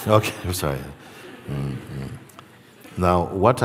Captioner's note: laughter